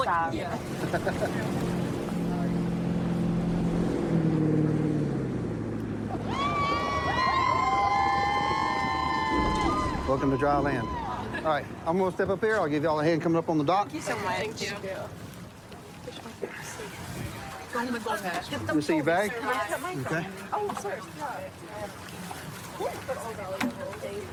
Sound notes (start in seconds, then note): 3.8 laughs; 6.1 cheers